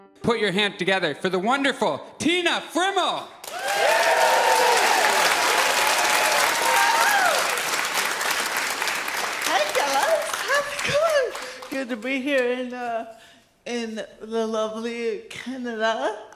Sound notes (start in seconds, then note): 3.4 audience cheers